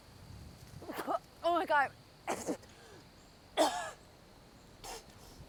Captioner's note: Abigail spitting